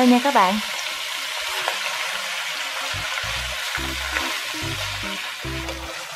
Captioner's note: sizzling ~~~